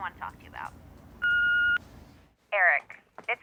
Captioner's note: voicemail beeps